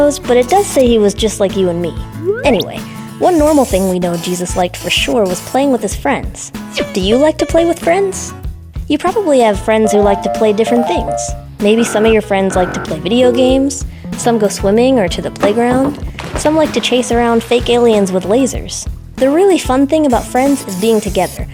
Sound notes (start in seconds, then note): 0.0 squish; 11.6 gaming sounds; 16.0 splash!